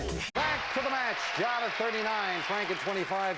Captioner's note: audience applauding